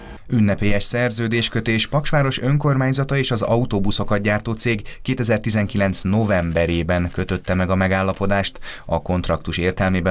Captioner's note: Polish